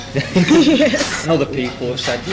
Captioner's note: they laugh